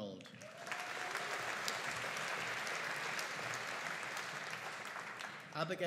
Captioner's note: audience cheering and applauding